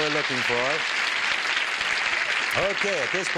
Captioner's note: applause